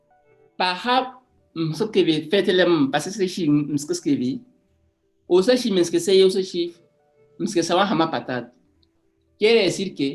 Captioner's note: speaks in Annobones